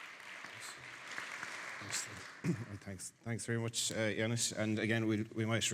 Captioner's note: audience applauding